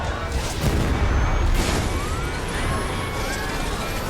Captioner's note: loud banging